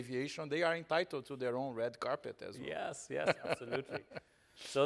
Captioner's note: laughing